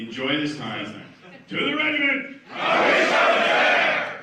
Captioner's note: everyone speaking Spanish; speaking Spanish